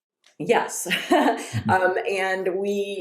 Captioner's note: laughs